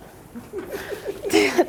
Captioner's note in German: lacht